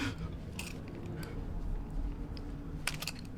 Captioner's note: knife clicking